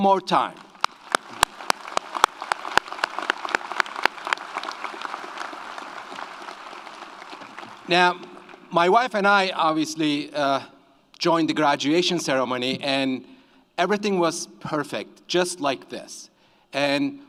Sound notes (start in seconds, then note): 0.5 audience applauds